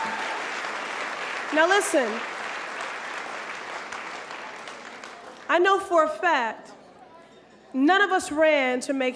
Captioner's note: applause